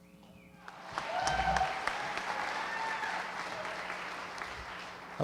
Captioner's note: applause